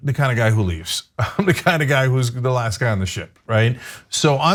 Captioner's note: laugh